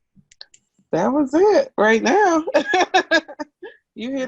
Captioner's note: laughing